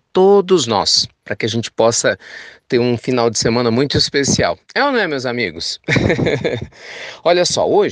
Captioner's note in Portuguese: risos